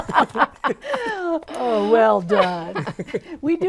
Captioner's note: laughing